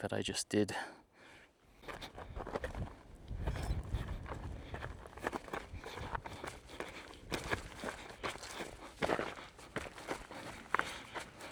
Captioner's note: footsteps